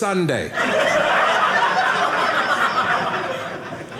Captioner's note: audience laughing